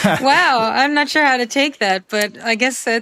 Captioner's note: laughs